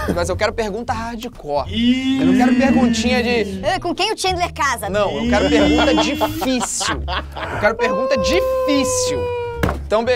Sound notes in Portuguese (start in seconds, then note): 5.4 risadas